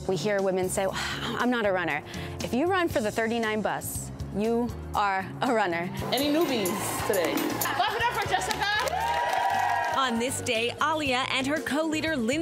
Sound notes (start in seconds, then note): 9.1 group cheering